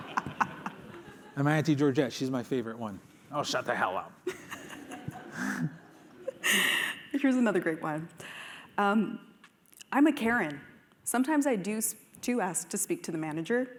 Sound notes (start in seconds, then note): 4.2 laughter